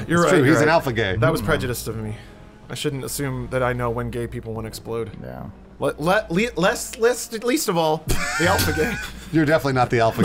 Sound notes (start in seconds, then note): 8.0 laughs